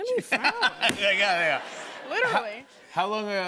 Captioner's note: laughter